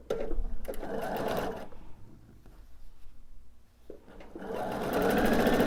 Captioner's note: sewing machine whirring